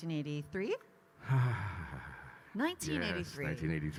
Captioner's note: Kyle sighs